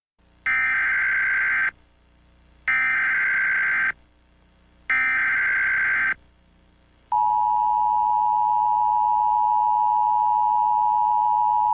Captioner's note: EAS tones